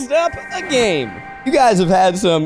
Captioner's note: logo rings